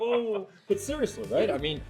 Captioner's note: laughing